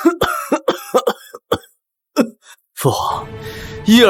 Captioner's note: cough